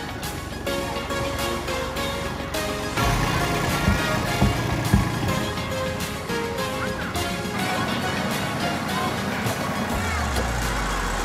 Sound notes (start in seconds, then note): 3.2 tractor engine rumbling